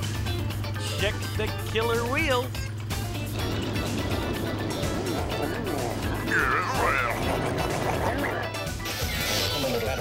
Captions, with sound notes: Sick, sick, killer wheels. (CAR GROWLING, SNARLING)